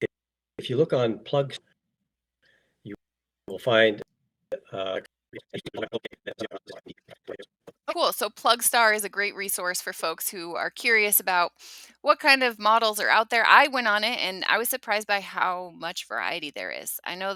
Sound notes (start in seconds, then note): 5.6 audio fast forwards